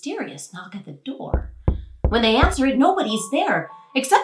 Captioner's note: knocking